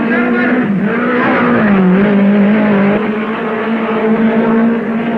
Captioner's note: cars revving